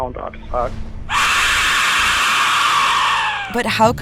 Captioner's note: whistle shrieks